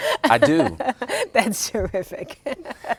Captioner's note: laughing